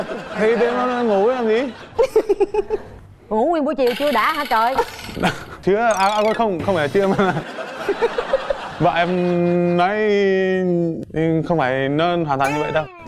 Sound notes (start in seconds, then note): 2.0 laughing; 6.9 laughing